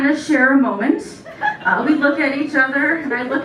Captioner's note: laughter